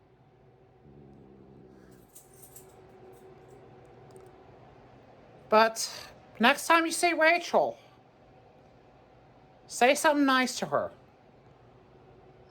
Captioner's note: Caprice growls